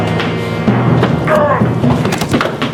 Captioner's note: grunts